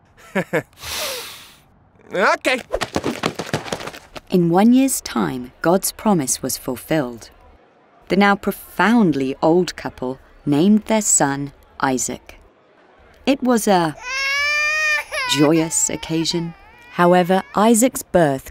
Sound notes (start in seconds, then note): 0.2 chuckles; 14.0 Isaac crying